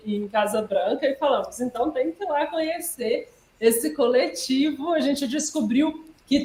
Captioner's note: laughs